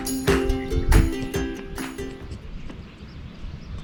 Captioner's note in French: Sons ambiants d'oiseaux